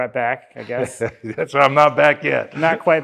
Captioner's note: chuckles